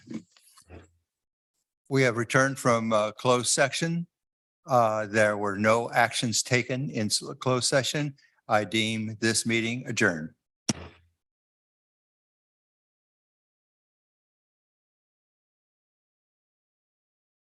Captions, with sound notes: We have returned from closed section, there were no actions taken in closed session. I deem this meeting adjourn. (gavel thudding)